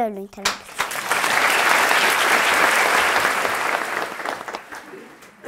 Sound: applause

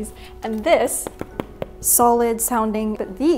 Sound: solid tapping noise

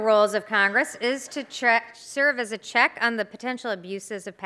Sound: applause

